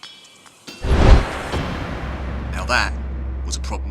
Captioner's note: dramatic noise